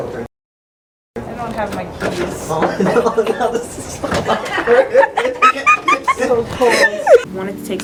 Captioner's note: laughter